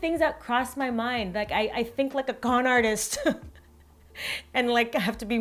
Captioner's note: chuckles